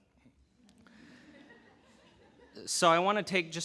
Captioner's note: audience laughing